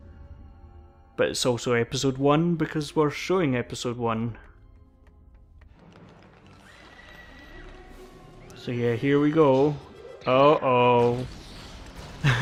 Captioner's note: laughs